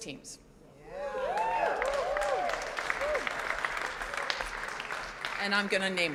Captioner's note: audience cheers and applauds